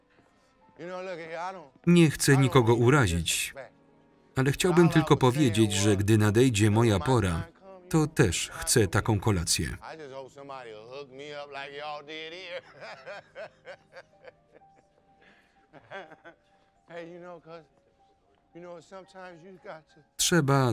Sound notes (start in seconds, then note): 12.6 laughs